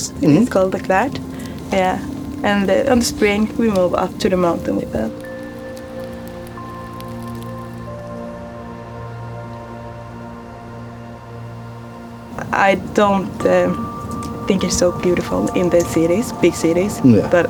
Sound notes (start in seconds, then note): 7.6 fire crackles; 7.6 soft music continues